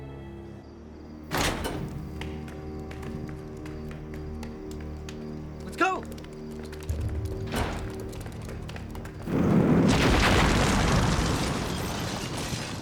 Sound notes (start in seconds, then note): 2.0 footsteps tapping; 9.2 explosion blasting